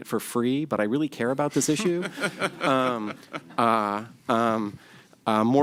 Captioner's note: laughter